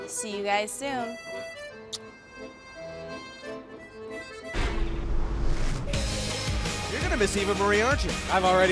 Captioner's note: blows kiss